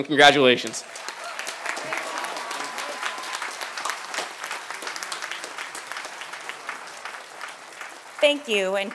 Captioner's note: applause